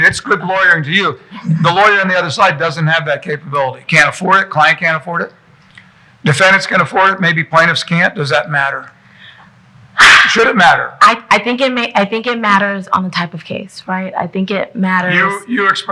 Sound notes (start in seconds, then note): 9.1 sighing